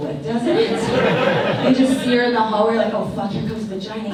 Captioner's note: audience laughs